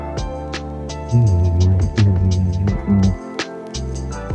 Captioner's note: humming